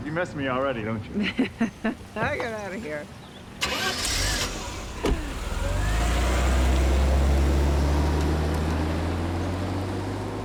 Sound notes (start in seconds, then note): 1.1 laughs; 3.6 engine turns over, door closes